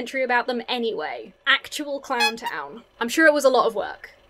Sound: clown nose squeaks

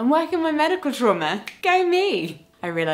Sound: fingers click

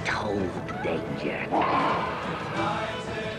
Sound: roars

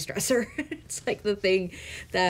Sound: chuckling

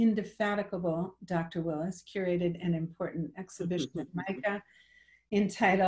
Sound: audio distorts

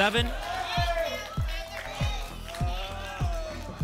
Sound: audience shouting numbers

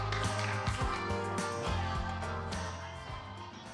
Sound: applause

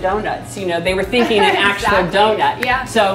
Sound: laughs

